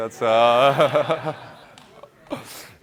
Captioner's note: laughter